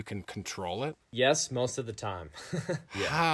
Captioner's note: laughing